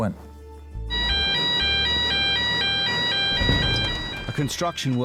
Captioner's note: sirens blaring